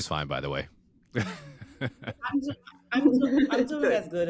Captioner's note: laughing